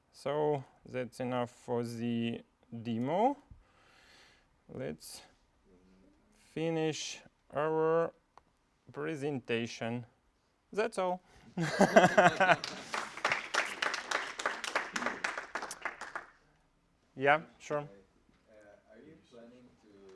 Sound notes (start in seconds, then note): 9.9 applause; 9.9 laugh